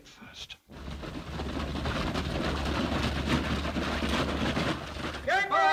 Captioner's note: hooves pounding